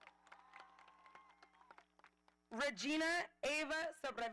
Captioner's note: audience applauding